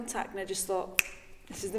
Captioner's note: fingers snapping